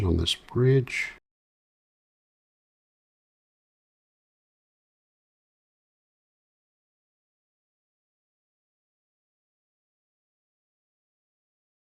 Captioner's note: silence